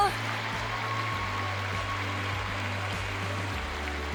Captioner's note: audience cheering